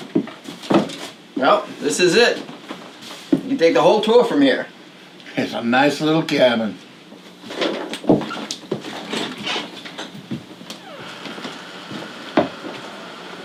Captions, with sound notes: - Well, this is it! You can take the whole tour from here. - It's a nice little cabin. (door squeaking)